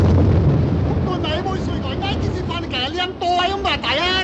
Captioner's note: man yelling in Chinese